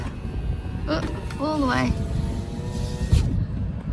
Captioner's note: window audibly schnoofs into place; electric car window whirrs